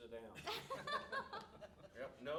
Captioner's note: all laughing